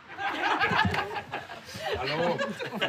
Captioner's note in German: Lachen